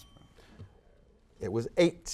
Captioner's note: bell ringing